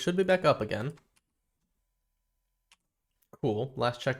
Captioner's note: silence